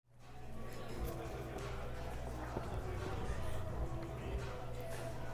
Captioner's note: murmur of crowd and club music